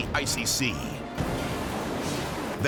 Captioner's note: water splashes